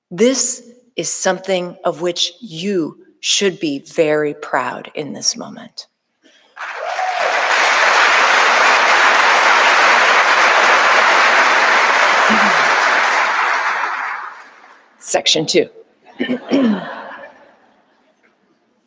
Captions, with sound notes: This is something of which you should be very proud in this moment. (audience applauding) Section two. (audience laughing)